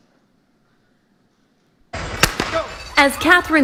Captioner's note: gun fires